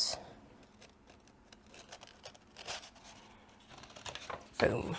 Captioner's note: quiet paper rustling